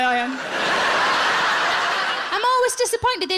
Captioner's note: audience laughs